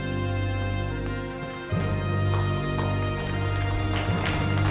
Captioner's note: gallery applauds